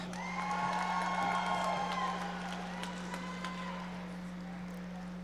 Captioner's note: audience members cheering and applauding